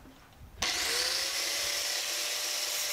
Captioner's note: machine whirring